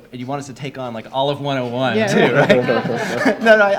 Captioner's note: laughs; audience laughs